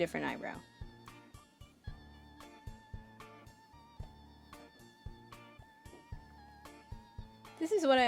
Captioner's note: silence